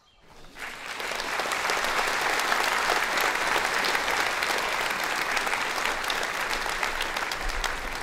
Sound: applause

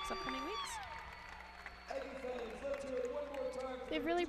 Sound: cheering

